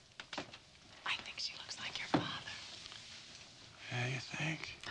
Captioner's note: whispering